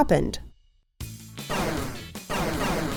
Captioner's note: lasers blasting